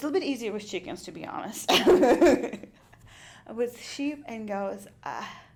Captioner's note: laughs